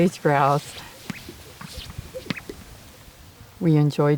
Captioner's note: birds chirping